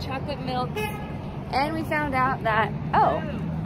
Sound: car horn

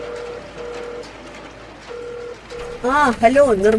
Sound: phone rings

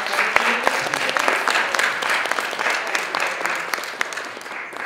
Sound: audience applauding

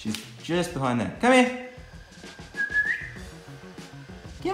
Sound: whistling

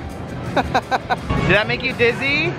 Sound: laughs

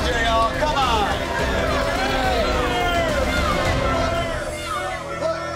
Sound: patrons protesting

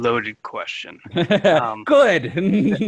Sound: laughs

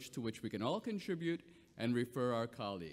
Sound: none

